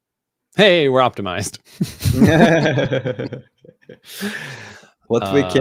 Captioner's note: laughing